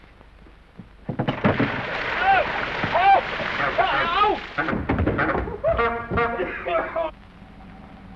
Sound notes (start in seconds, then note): 5.8 car horn honks